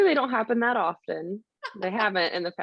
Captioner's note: laughing